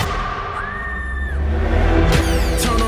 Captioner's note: screams